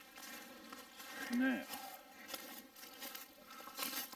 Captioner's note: leaves rustling